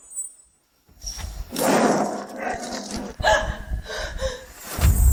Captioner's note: gasp